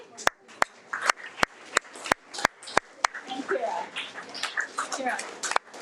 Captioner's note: audience applauding